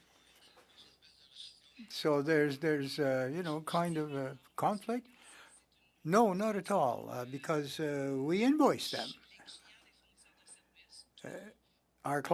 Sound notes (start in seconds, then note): 9.1 speaking french